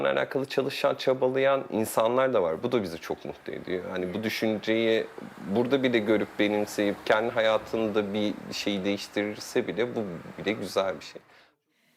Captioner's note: speaking foreign language